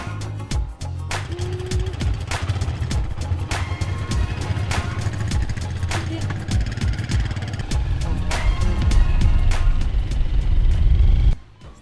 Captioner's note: engine running